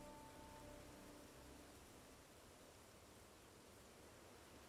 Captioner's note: leaves rustling